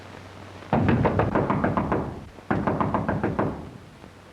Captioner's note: knocking on door